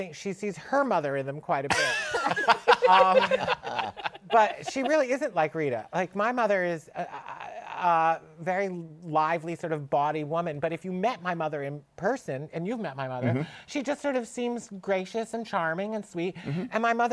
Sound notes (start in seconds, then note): 1.7 laughter